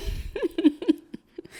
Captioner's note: laughs